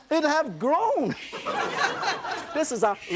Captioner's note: laughter